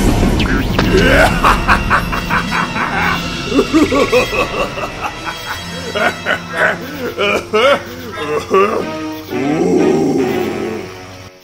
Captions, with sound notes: [Diabolical redneck laughter] [Laughter dies off] OoooOOOOoooohhhhh...